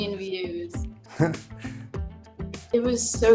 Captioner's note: laughs gently